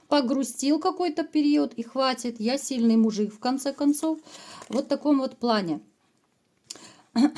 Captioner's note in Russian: откашливается